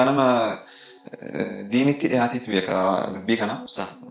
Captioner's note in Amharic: ማጓራት